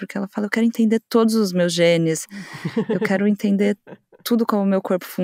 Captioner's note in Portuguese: risos da ao fundo